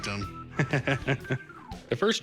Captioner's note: laughs